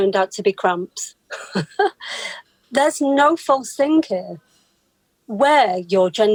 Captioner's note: laughs